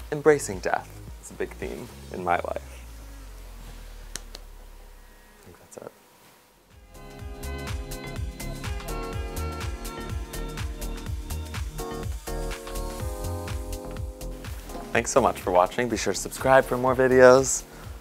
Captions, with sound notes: embracing death. It's a big theme in my life. (soft clap) I think that's it. (upbeat music) Thanks so much for watching. Be sure to subscribe for more videos.